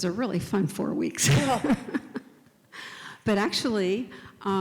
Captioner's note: laughs